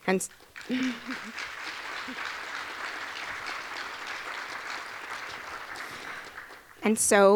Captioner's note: audience clapping